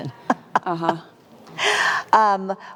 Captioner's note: laughs